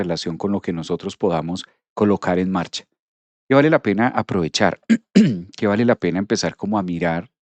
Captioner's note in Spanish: carraspeo